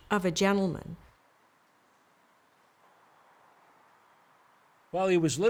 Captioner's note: wind sounds